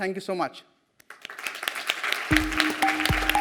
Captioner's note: audience applauds; cheerful music